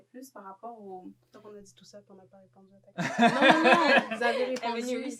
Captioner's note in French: rires